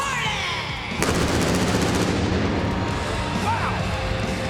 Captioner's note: pyro blasting